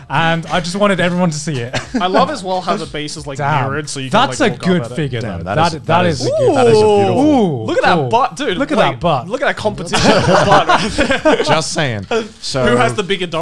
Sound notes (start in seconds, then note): 9.9 laughs